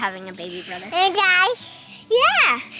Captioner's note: makes baby noises